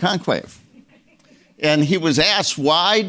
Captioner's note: audience members laughing